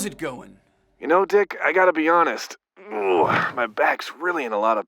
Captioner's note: groans